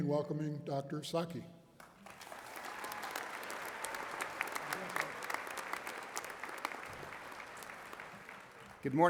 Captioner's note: applause